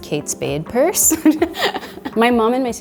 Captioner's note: laughing